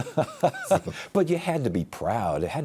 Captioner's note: laughs